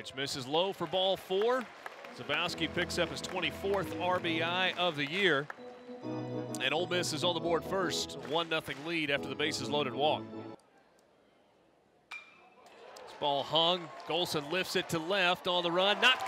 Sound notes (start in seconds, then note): 12.1 ball hitting bat